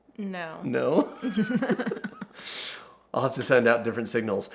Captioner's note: both laughing